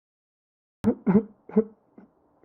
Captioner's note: sob